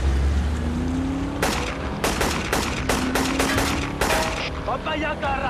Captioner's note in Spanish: Disparos